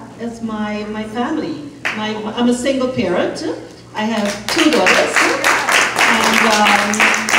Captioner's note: applause